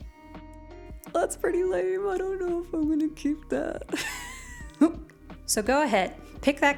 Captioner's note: nervous laughter